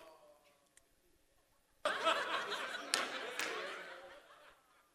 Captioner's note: audience laughter